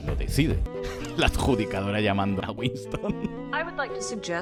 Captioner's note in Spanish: entre risas